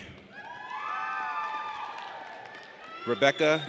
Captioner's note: audience cheers